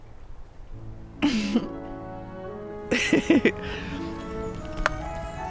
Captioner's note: chuckling about something stupid no doubt